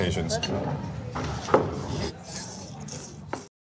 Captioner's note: people slurping